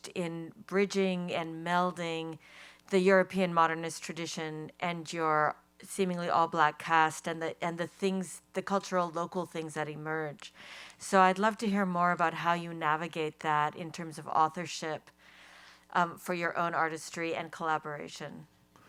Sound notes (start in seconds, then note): none